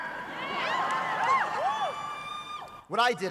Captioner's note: audience cheering